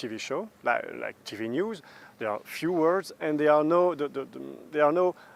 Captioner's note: stuttering